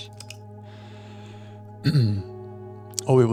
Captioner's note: clears throat